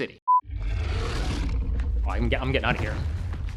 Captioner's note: dinosaur roaring